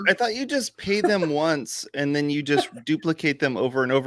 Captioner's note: laughs